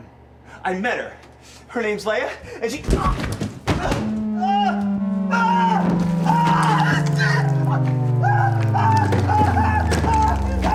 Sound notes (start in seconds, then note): 3.8 screaming